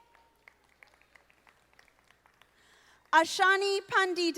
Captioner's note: audience applauding